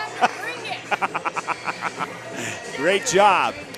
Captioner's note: announcer laughs